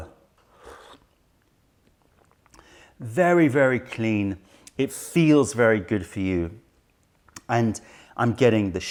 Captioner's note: sips tisane